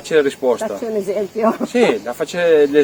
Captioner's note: laugh